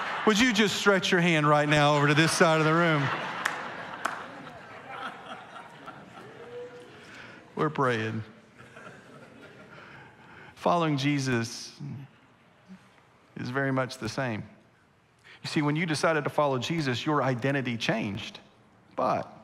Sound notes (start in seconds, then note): 4.3 congregation laughing